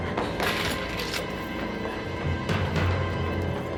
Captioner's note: keys jingling